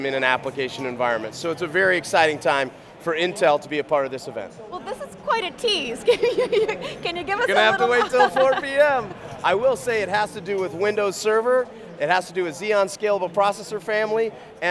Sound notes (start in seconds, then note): 5.9 giggles